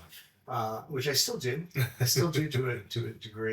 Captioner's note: laughs